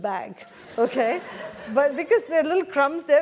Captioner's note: laugh